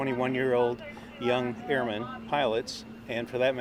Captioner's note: background chatter